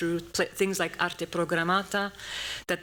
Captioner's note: non-english speech